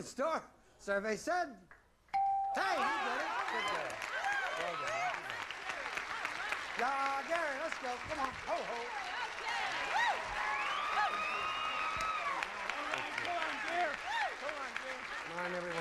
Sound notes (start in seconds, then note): 6.7 audience applauding; 10.3 audience cheering